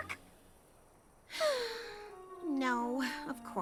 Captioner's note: sigh